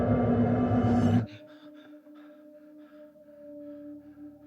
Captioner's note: Andrew gasping